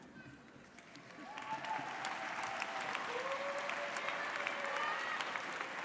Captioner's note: audience cheering and applauding